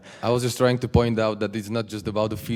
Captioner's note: voiceover